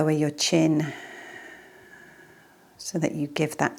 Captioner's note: exhales deeply